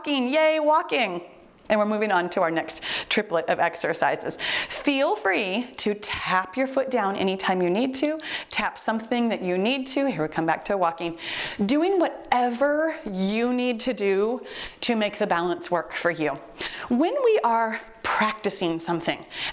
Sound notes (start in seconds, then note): 8.0 timer beeps